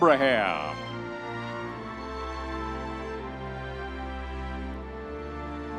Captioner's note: audience members cheering; soft dramatic orchestral music continues